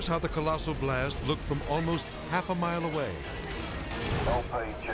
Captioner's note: fire blaring